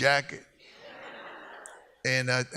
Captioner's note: audience laughs